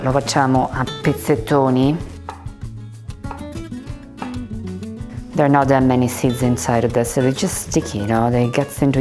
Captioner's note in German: spricht Italienisch